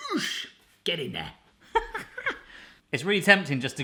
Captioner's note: laughing